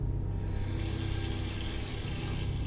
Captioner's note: sound of water running